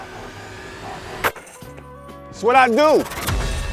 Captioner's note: basketball falling through chain nets